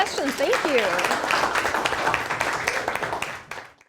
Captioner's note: students applaud